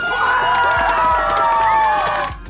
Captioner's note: cheers